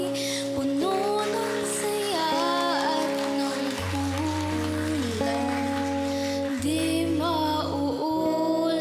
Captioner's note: applause